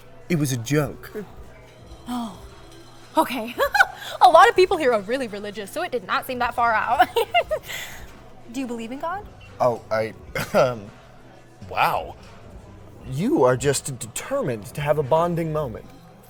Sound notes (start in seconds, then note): 3.5 relieved laugh; 6.9 giggle; 10.4 hedging chuckle